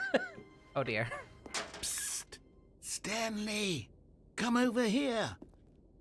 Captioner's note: laughing nervously; whispering